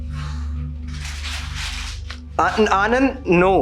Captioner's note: begins to crumble paper